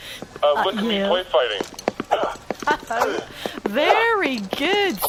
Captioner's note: laughing; exertion, sounds of something being swung